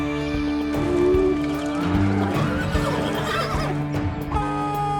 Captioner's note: horses neighing